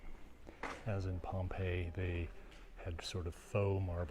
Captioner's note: speaking foreign language